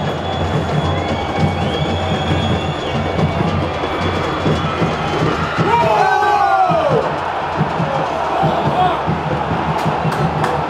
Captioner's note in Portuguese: sons da torcida